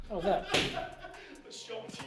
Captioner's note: laughing